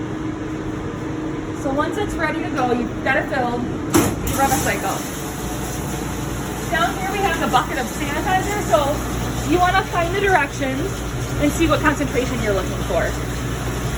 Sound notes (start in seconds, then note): 3.9 door closes; 5.8 washing machine starts